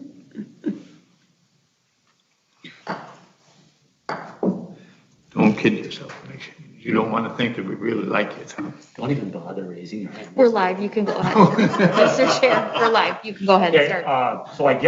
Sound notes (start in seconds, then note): 0.0 chuckling; 4.4 light thumping